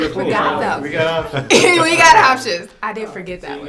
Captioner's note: offscreen crew chatter